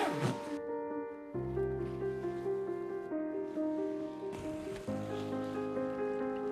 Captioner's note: zipper closing bag